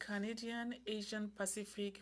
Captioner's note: speaking French